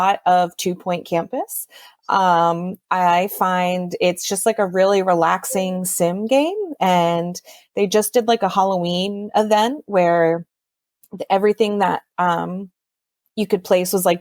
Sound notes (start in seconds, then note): none